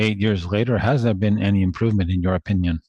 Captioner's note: speaking French